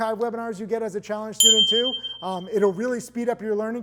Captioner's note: bell ringing